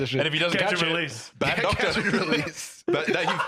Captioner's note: laughs